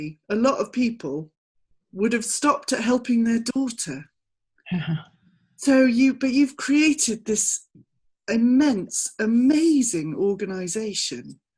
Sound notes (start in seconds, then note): 4.8 laughing